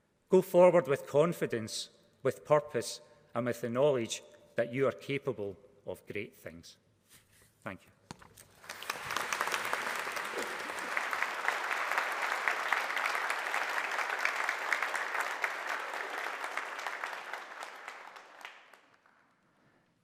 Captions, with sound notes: Go forward with confidence, with purpose, and with the knowledge that you are capable of great things. Thank you. [APPLAUSE]